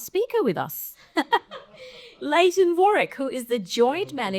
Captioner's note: laughs